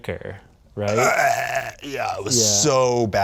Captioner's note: gagging noises